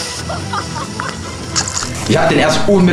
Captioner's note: laugh